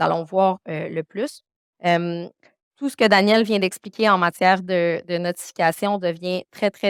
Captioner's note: continues speaking French